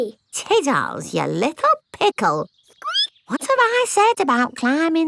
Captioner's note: squeaks